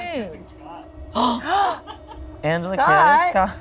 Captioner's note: group gasping